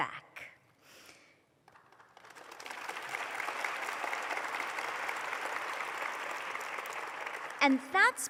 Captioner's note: applause